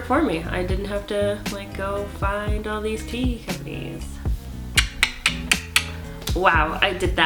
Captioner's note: clicking sounds